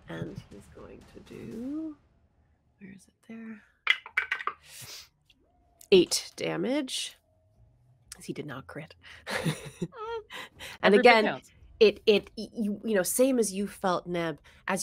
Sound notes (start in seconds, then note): 3.9 dice clatter; 9.2 chuckles